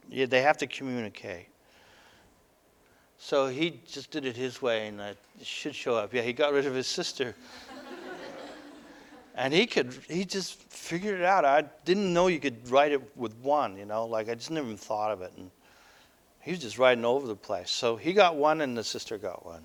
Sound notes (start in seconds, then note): 7.3 audience: Laughter